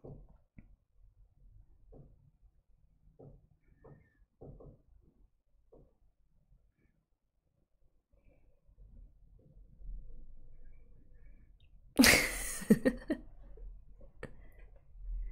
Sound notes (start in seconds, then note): 12.0 laughs